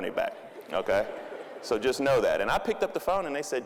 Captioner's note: audience laughing